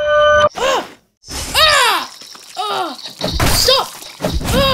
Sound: yells, Grunts

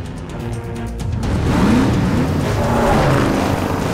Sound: engines revving

